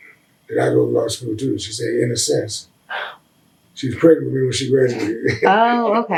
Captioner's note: laughs